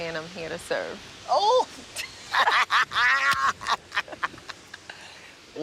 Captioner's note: both laugh